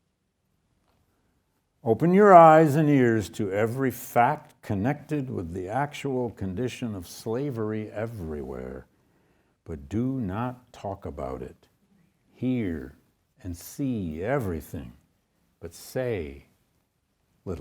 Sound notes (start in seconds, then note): none